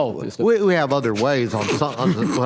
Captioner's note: laughs